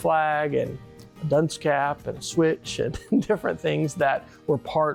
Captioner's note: chuckles